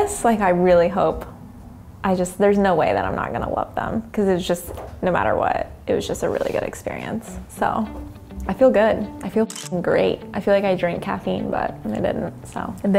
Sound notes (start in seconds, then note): 9.4 shutter clicks